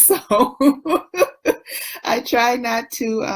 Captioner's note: laughs